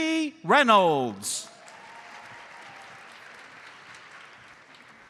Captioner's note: audience applauds